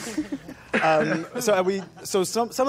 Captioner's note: dance coughs